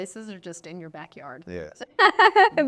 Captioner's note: laughing